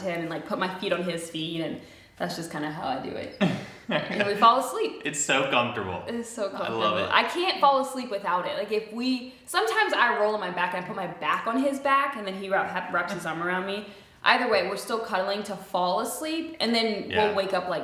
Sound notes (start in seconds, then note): 3.4 laughs